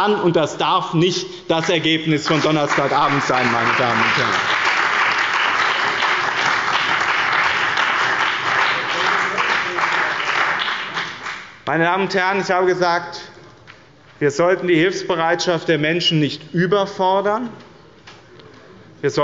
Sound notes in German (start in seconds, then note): 2.2 Beifall bei dem BÜNDNIS 90/DIE GRÜNEN und der CDU